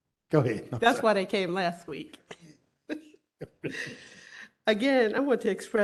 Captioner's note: laughter